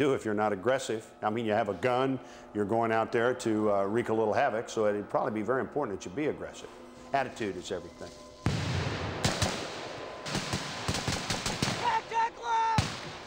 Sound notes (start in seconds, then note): 8.4 gunshot; 10.2 rapid gunfire